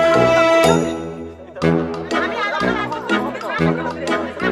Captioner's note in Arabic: جرس